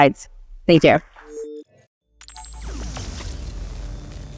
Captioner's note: electronic humming